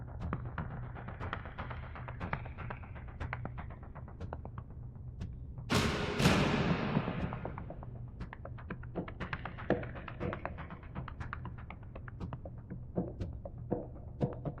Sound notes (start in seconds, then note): 0.1 tense rhythmic music; 5.7 dramatic banging; 7.9 tense rhythmic music